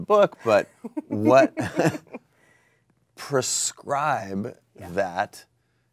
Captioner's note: laughs